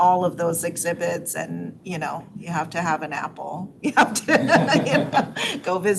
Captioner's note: laughs